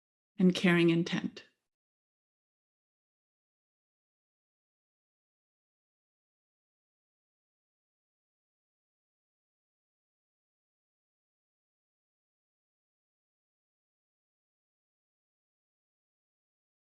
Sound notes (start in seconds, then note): 2.2 silence